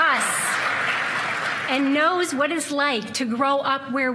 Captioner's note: cheers and applause